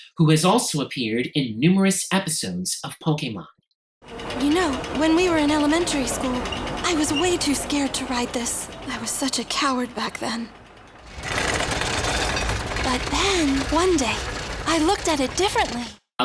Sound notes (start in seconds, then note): 10.8 rattling